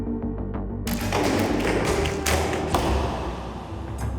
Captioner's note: arrows being fired and striking target